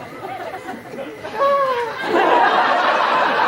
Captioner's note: Benedick laughs weakly